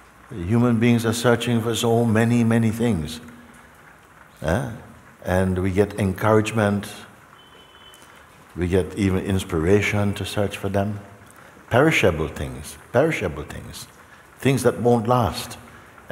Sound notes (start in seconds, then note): none